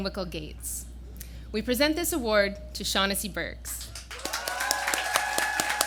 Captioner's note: applause